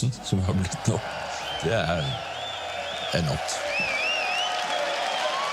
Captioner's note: applause